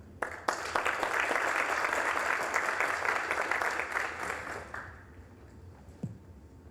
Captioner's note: applause